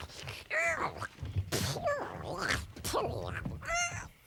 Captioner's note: Tasha babbles